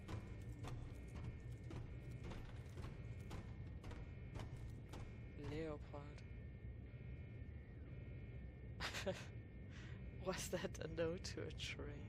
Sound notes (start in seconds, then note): 1.3 chuckles